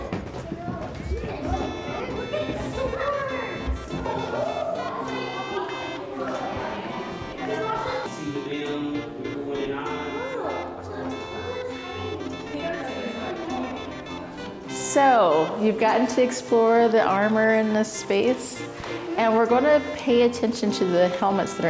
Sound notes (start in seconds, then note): 2.0 upbeat music; 6.6 kids chattering; 10.5 upbeat music continues